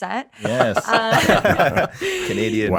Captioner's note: all laughing